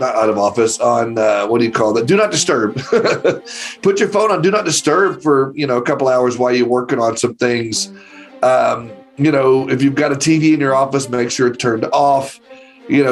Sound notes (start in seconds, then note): 2.7 laughs